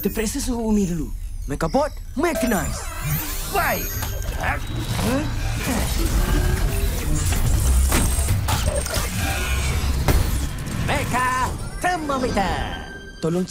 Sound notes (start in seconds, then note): 3.3 beeping, whirring; 6.5 whirring, clanking